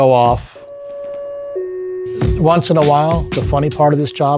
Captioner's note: alarm ringing